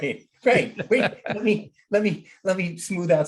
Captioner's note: both laughing